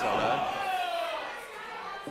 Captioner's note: crowd cheers